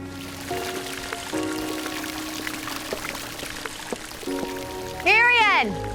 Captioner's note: water gurgling, splashing